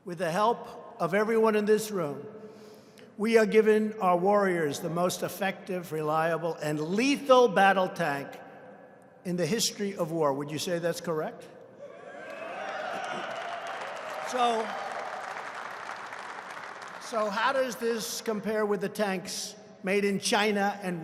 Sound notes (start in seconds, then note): 12.2 applause